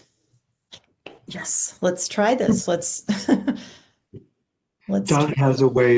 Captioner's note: chuckles